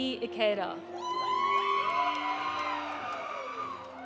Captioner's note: audience cheering; audience applauding